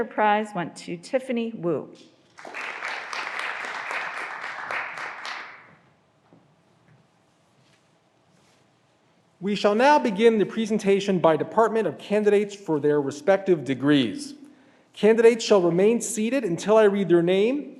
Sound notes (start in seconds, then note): 2.3 graduands applauding